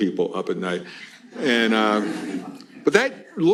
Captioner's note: laughter